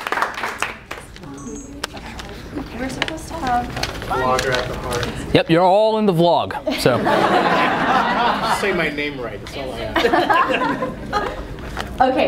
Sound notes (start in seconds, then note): 6.6 laughter